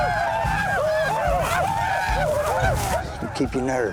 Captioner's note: whooping